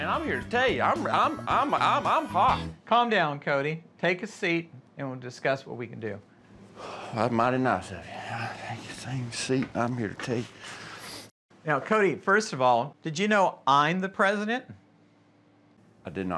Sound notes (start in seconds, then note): 6.7 sighs